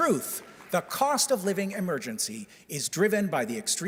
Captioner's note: applause